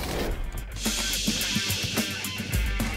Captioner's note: gas hissing; upbeat music